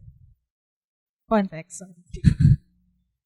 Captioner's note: chuckles